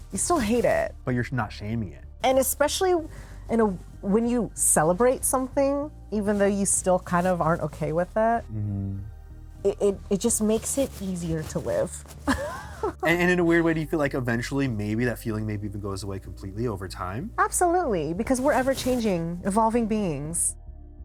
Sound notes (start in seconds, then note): 12.3 laughs